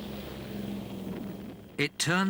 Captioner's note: engines roaring; explosions booming